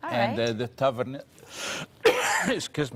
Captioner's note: coughing